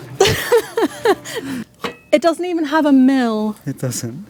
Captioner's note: laughs